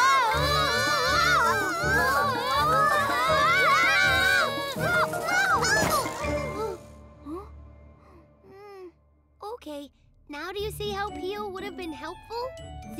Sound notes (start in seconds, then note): 0.0 all screaming; 6.1 all grunt